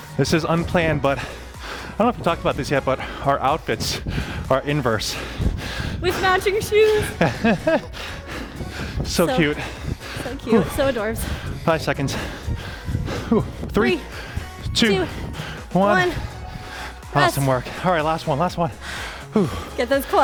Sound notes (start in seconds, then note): 6.0 laughing